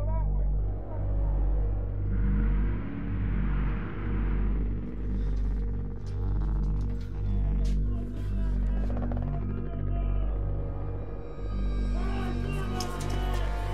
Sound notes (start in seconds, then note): 7.8 men chattering